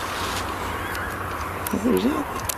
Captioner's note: high pitched screech